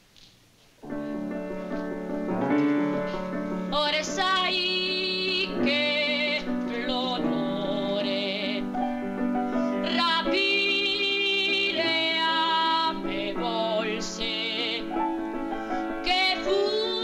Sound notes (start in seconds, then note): 0.2 operatic music; 3.2 speaking italian